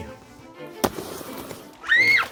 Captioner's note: kid shouting; skateboard rolling